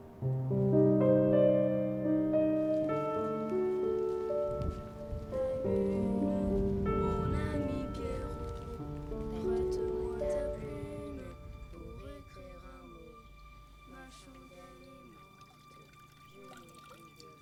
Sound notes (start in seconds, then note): 4.8 thunder rumbling; 7.3 boy singing in a foreign language; 11.9 dramatic music